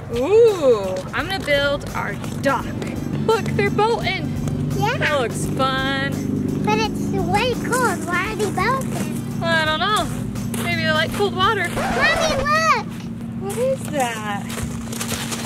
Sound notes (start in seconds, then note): 11.7 record scratch